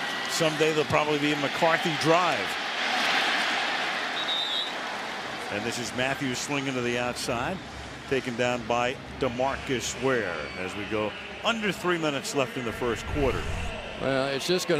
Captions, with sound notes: And someday they'll probably be McCarthy Drive. [whistles] And this is Mathews swinging to the outside. Taken down by DeMarcus Ware as we go under three minutes left in the first quarter.